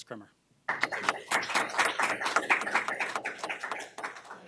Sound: audience claps

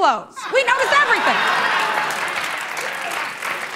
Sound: laughter and applause

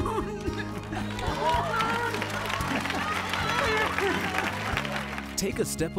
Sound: laughter, applause, rejoicing

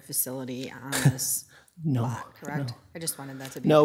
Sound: chuckles

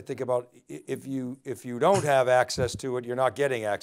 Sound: coughs

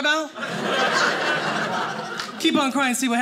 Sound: audience laughing

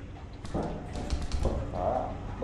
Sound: Coil-Head footsteps

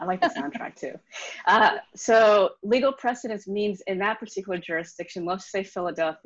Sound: laughs

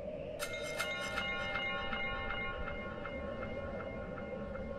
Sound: chimes clinging

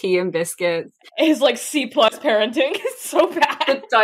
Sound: laughing

